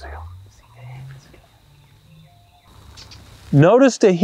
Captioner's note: whispering